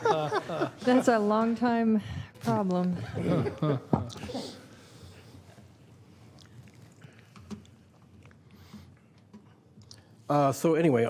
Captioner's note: laughter